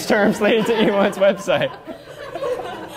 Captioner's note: laughter